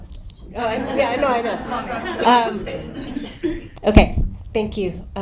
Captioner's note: audience laughing